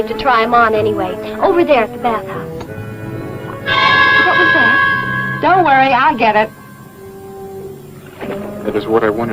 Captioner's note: tap